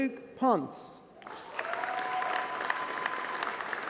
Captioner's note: applause